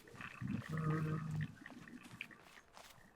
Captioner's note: hums